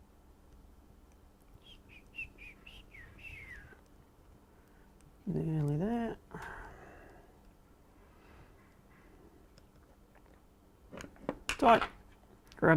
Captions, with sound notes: (whistles) Nearly there. Tight.